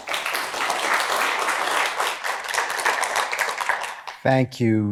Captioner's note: applause